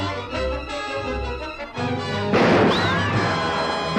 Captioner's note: firing